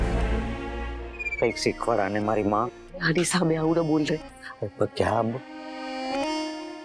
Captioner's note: speaking in regional language